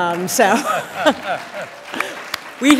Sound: applause

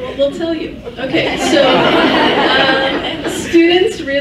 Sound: laughs

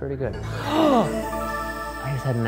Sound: gasping

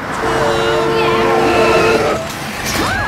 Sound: horn honking; music blaring

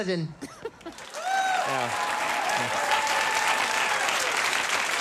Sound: audience applauding

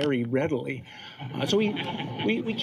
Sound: laughter

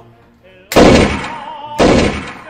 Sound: bang!

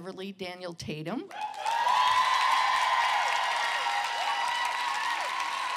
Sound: cheering

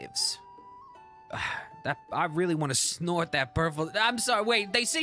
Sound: sigh

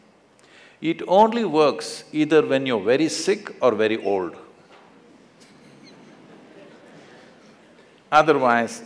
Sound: laughter

